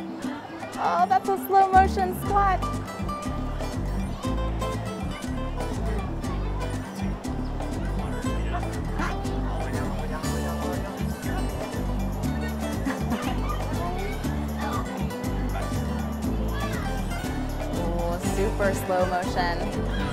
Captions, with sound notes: Oh, that's a slow-motion squat. (Laughter) Super slow motion.